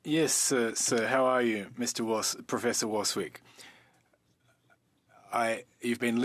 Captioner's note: speaking French